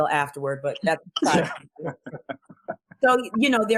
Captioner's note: laughs